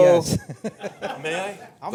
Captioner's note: laughter